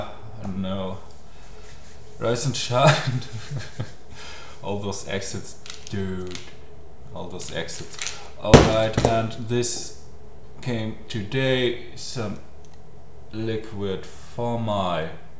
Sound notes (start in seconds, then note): 2.8 laughing